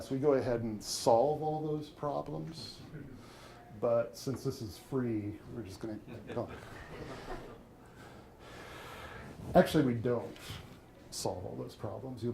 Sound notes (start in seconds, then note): 2.9 audience chuckling